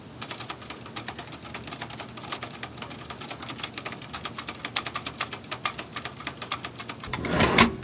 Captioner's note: keyboard clacking